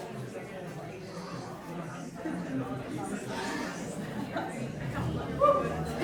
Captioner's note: crowd continues chattering